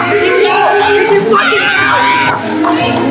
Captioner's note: everyone cheering